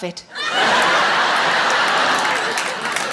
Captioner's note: audience laughing